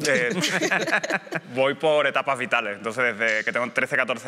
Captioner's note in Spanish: algunos ríen